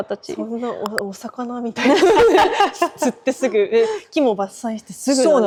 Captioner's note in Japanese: 笑い